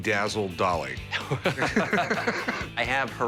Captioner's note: laughter